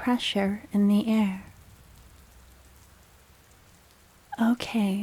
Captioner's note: dramatic pause